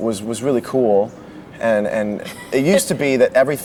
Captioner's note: laughs